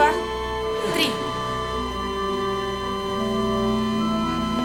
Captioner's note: flatline tone